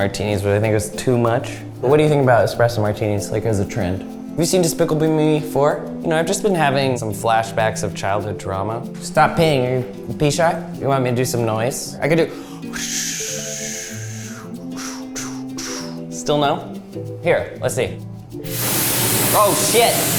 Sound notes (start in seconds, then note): 12.1 imitates wind whooshing; 18.5 blower whooshing